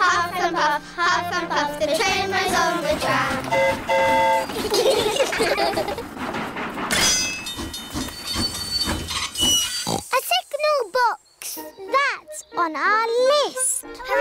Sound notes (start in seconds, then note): 3.5 train horn toots; 4.5 all giggle; 7.6 tinging; 9.8 oinks